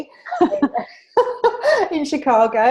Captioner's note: laughter